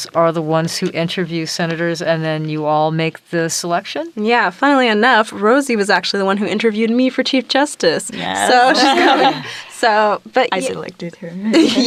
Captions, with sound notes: are the ones who interview Senators and then you all make the selection? - Yeah. Funnily enough, Rosie was actually the one who interviewed me for Chief Justice. - Yeah. (giggles) - So ... - I certainly do if you admit.